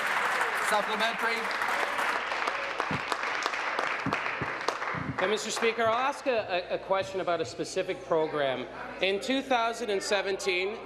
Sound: applause

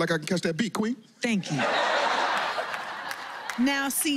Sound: laughter

